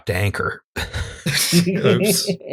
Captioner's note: laughter